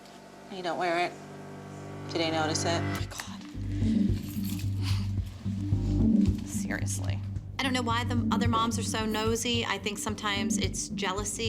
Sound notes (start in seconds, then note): 2.8 whispers; 4.2 dramatic music playing